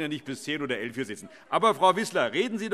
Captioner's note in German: Heiterkeit und Zurufe